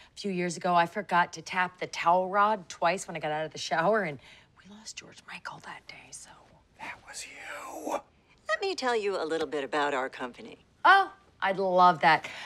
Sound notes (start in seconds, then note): 6.6 whispering